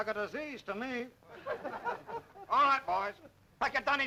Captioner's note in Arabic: الرجال يضحكون